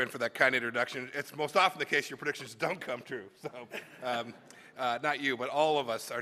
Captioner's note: laughter